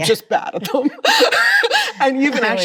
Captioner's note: Chloe laughs